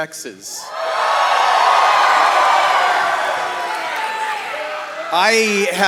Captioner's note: audience cheering